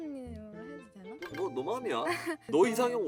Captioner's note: nervous laughter